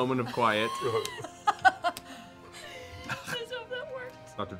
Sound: laughing

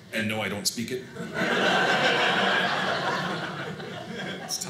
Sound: audience laughing

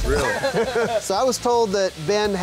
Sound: laughing

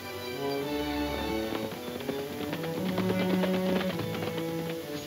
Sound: horses galloping

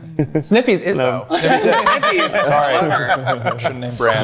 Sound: group laughing

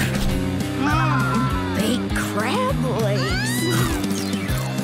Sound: screaming

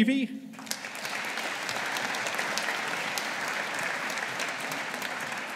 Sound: audience applauding

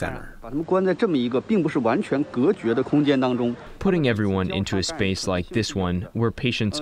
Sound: through translator

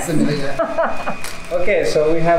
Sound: laughs

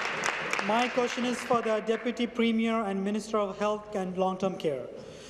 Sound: applause

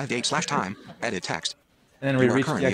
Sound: laughter

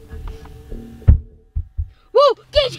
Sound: pounding

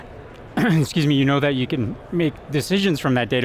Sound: coughs

